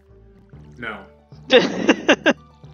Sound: laughs

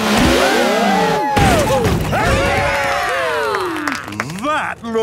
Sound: crowd; applause

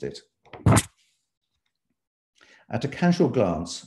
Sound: paper shuffling

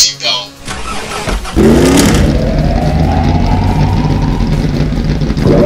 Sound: SPFT's engine starting up

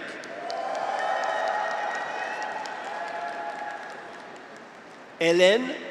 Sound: graduates cheer; audience applauds

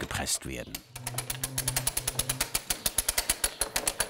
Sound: rattling

